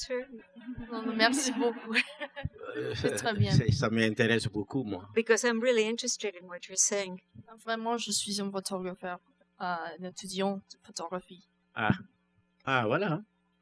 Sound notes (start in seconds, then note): 0.6 laughter; 4.3 speaking french; 7.5 speaking french